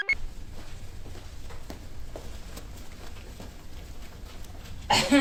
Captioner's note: computer chirps; shoes clop; scrubs rustle